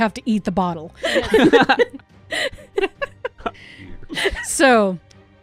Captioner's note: laughter